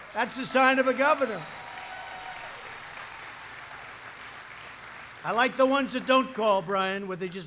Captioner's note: applause